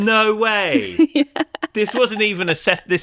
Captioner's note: laughs